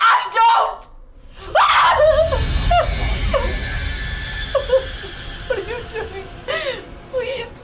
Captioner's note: tense instrumental music; Tracy screaming